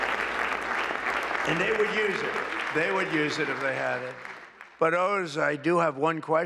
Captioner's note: applause